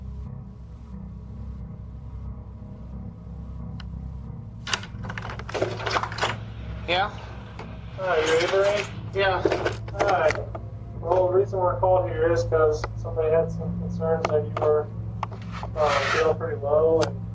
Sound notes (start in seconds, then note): 4.6 door opens